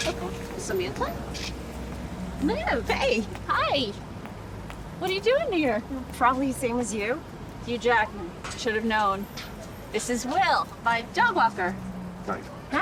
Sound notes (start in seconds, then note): none